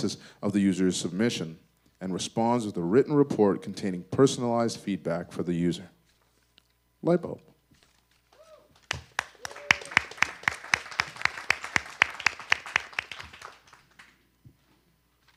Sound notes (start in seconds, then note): 8.8 audience applause